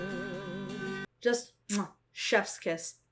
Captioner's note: smacks lips